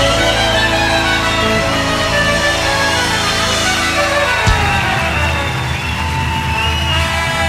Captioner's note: audience ovations